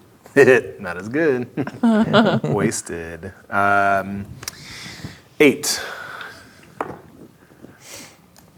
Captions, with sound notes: (laughs) Not as good. (players laughing) Wasted. Um... 8. (dice rolling)